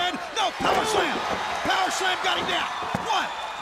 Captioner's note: crowd cheering